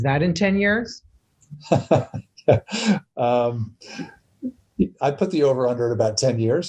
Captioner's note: laughs